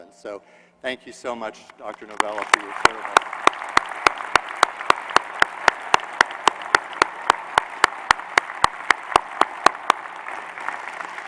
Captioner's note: applause